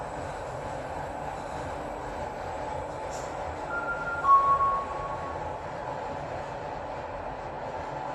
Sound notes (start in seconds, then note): 3.7 chime